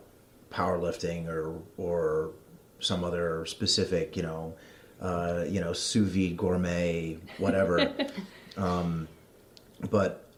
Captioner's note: giggles